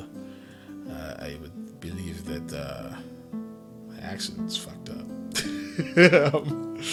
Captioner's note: laugh